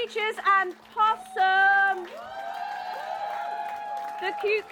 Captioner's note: cheering